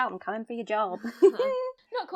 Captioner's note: all laugh